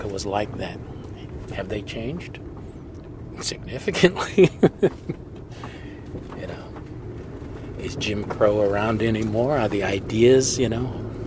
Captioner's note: laughs